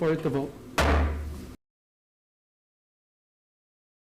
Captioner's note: gavel slamming